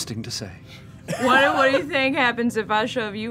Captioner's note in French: rires